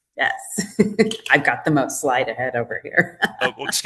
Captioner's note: laughs